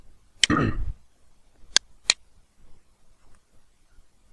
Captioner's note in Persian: گلویش را صاف می‌کند